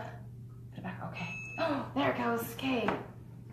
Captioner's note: beeps